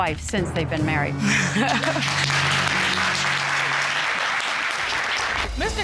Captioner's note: applause; laughs with relief